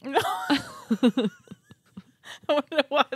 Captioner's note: laughing